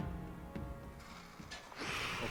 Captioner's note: sounds from a surgery room